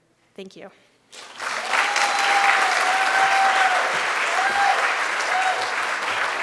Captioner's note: audience cheering and applauding